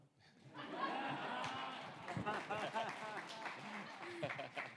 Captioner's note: audience laughs